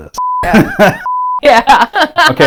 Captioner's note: laughs